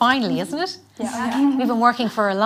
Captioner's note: girls agree audibly